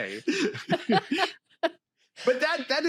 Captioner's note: laughter